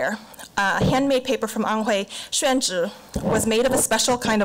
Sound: foreign language

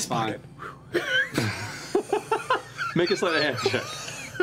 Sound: laughter

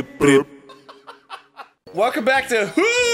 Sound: laugh

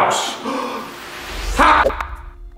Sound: gasp

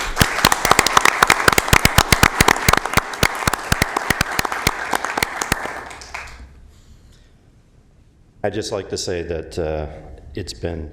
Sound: applause

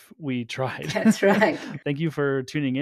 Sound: chuckle

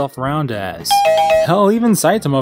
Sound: "Correct!" sound effect, but at half-speed

